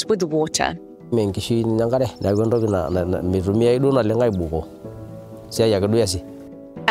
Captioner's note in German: Dorfbewohner spricht in einer Fremdsprache